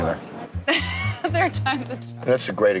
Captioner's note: laugh